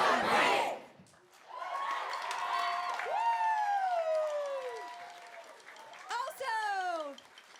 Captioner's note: applause